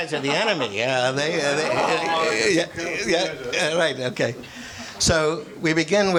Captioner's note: audience laughs